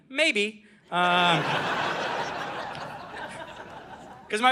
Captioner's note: audience laughing